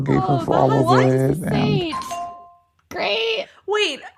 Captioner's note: bingbong